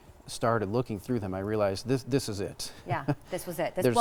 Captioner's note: laughing